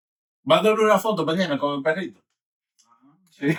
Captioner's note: speaking In Foreign Language